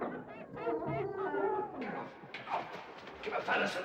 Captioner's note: door opening; animals grunting